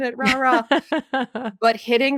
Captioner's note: laughing